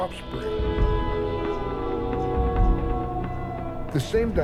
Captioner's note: wolf howls